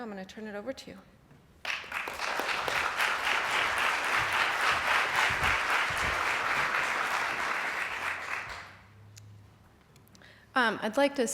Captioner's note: applause